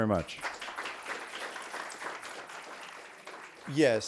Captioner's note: audience clapping